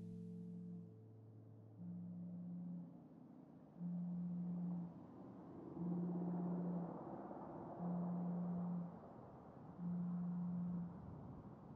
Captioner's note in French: vibreur